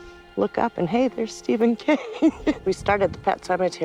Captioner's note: laughs